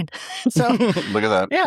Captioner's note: laughing